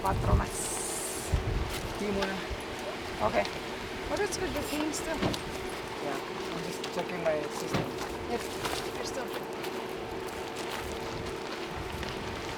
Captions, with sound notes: (speaking in foreign language) (team chattering) Yeah, I'm just checking my system.